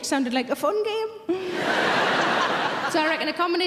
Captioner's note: audience laughing